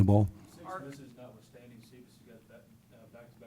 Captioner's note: voiceover